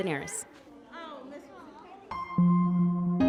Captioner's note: people chattering